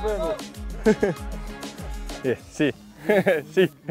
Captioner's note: laughing